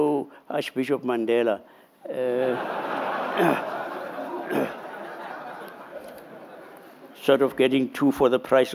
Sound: laughter

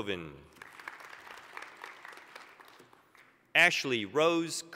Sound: applause

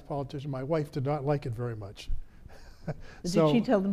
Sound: laughs

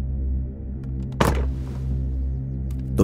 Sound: gun slammed on desk

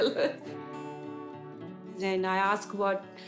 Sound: laughs

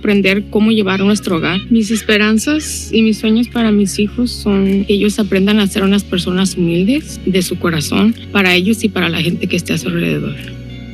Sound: video playing in a foreign language

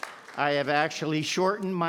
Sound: all applaude

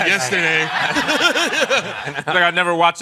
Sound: laughter

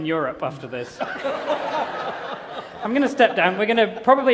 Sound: laughter

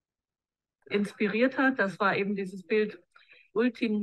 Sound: speaking german

